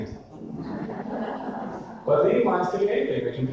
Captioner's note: audience laughter